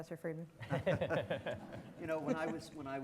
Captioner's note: all laughing